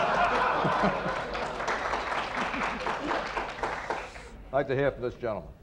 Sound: laughter & applause

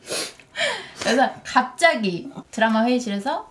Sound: sniffling

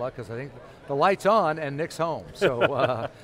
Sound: laughs

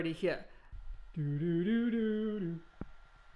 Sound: humming

